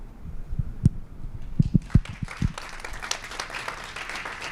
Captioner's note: applause